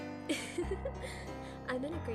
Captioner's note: ASMODEUS giggles